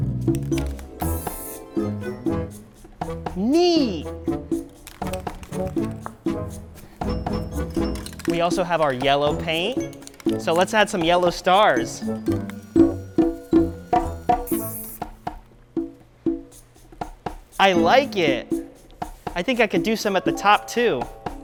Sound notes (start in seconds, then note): 0.9 whimsical harp strum; 4.6 can rattles; 14.7 spray paint hisses